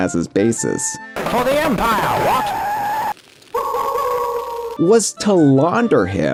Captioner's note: Sabrewulf howls